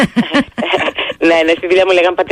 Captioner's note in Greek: γέλια